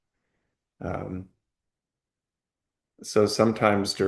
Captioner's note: pause